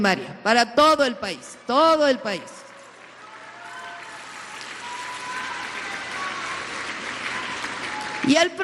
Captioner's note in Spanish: aplausos